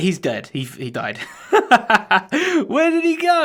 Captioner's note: laughs